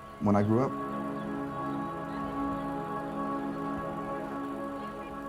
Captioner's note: film reels spinning